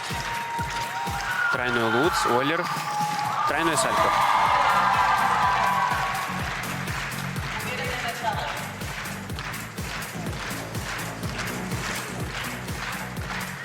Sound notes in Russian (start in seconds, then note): 7.1 ликование; 8.6 аплодисменты